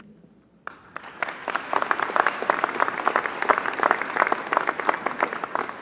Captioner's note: applause